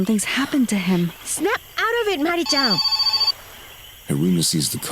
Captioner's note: phone rings